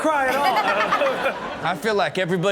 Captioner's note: all laugh